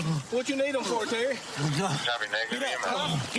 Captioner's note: panting